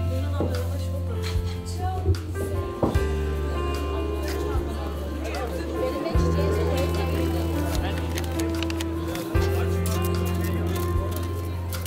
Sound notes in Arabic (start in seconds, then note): 2.7 بالتركية